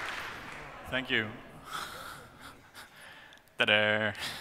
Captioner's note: applause